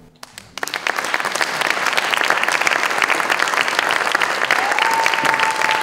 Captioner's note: applause